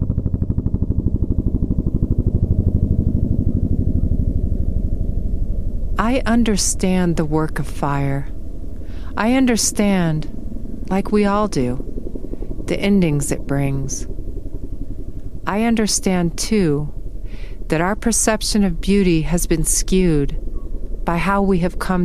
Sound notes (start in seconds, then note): 1.3 helicopter chopping above